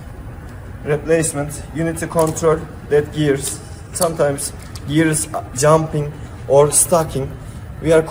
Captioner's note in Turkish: gears